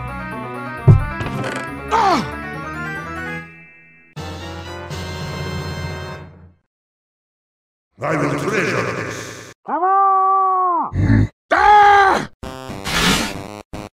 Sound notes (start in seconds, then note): 1.9 gasps; 9.6 Pyro shouts; 11.5 Peppino yells; 12.4 video game music plays